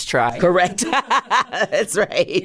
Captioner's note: laughs